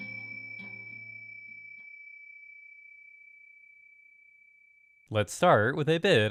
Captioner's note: ding